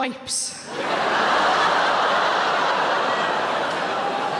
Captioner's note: audience laughing